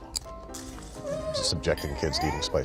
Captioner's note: whimpers